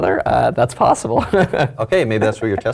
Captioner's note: laugh